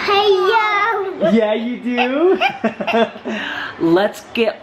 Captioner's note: laughing